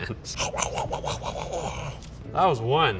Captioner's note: growling noises